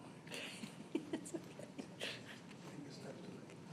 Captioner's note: chuckling